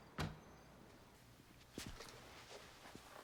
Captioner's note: door thuds